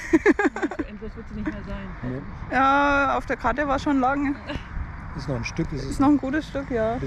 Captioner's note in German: gelächter